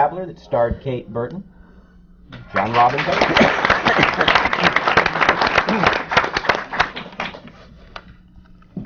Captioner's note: applause